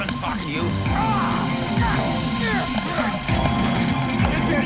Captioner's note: screams